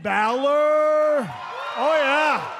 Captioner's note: cheers and applause